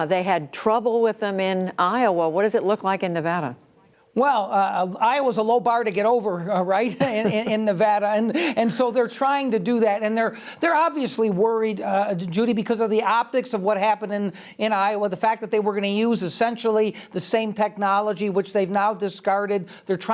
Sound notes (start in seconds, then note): 6.7 laughter